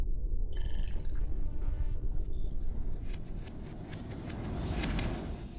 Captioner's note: digital beeping and whirring